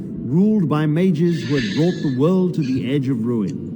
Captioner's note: inhale